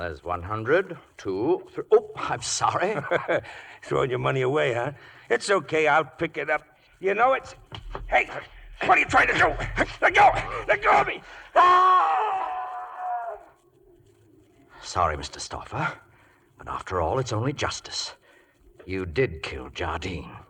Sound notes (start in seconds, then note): 10.1 screaming